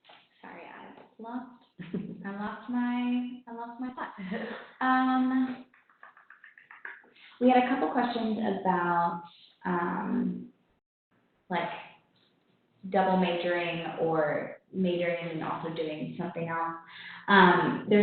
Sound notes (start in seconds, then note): 4.2 laughing